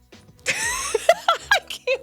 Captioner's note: laughing